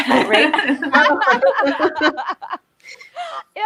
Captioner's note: both laughs